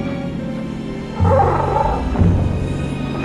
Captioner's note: Death Bird call